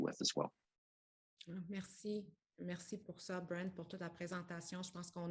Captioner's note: speaks French